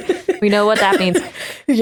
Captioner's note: laguhter